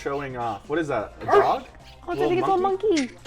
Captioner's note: dog barks